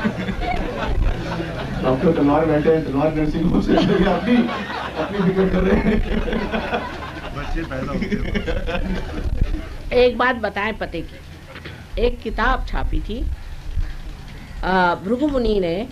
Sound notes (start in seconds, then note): 7.7 laughter